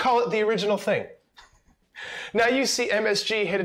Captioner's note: laughs